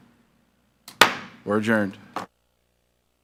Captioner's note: gavel thuds